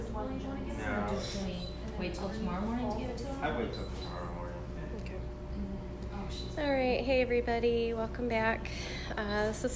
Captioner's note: chatter